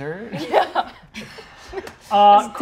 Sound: laughs

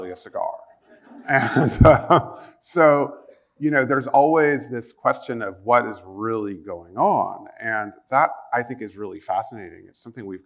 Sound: chuckle

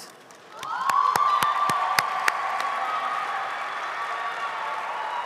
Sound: audience applauding

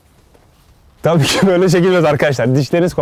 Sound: laugh

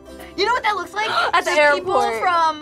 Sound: gasps

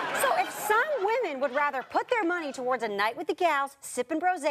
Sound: audience laughter

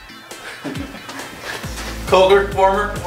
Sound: chuckles

